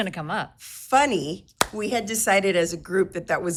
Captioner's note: palms clapping